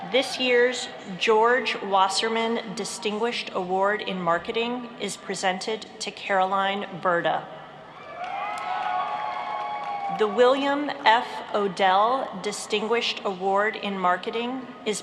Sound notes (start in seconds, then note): 8.2 applauding